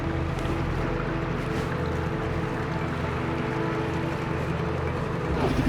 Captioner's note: water gurgling